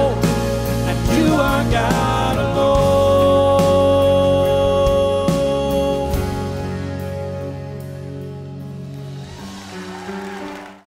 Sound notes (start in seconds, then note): 8.9 cheers and applause